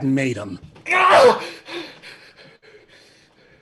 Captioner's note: scream